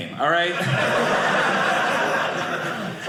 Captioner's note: audience laughing